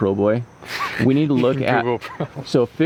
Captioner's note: boy chuckles